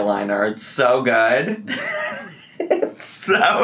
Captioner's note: laughs